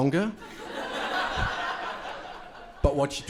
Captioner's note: crowd laughing